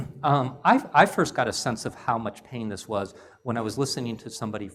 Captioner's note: cough